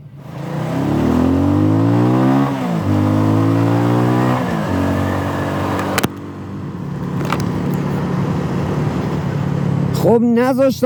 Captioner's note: engine and wind noises